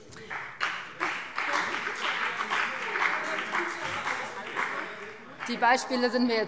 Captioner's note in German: Beifall BÜNDNIS 90/DIE GRÜNEN und CDU